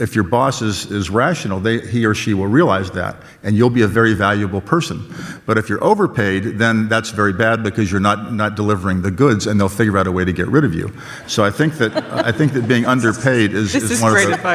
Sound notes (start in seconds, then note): 11.1 audience laughs